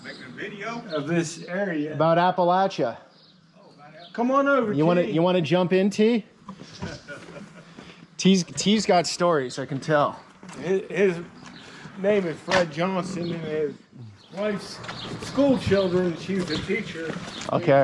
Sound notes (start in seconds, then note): 6.6 laughing